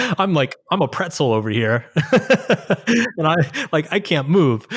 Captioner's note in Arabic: يضحك; يضحك